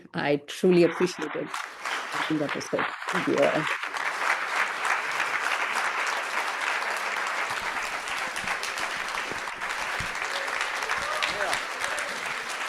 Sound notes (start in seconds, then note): 2.6 audience clapping